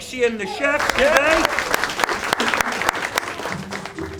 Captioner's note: applause